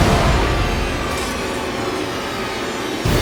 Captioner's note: sword clatters